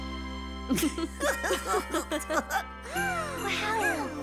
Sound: laughing; gasping

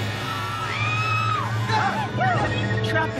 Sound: screaming

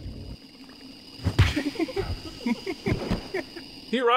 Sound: the servant laughs creepily though knocked out

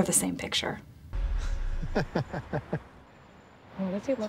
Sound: chortle

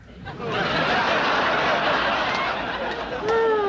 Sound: audience laughter

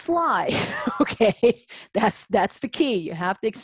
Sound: laughs

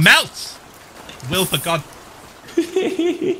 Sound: sizzle sound; Ghostbur laughs

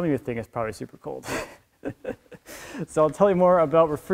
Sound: laughs

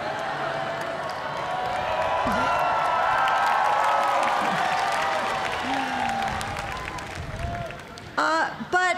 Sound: cheering and applause

